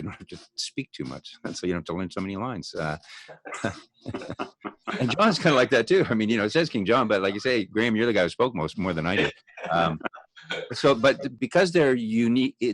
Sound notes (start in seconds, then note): 3.2 chuckles; 9.0 laughs